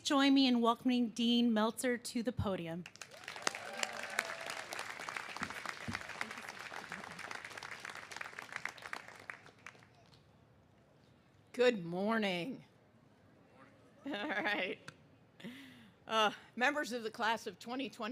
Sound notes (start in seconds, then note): 3.0 cheers and applause